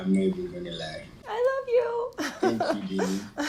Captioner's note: laughter